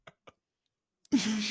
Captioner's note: laughs